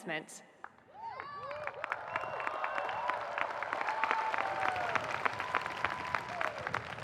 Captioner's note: audience applauding; audience cheering